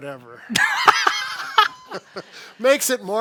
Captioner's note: both laughing